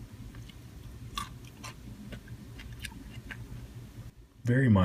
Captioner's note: crunching sound